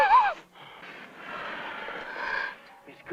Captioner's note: crying - blows; sigh